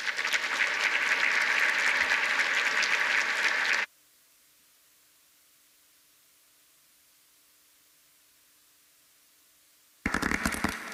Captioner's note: applause